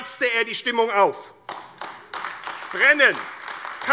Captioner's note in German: Beifall AfD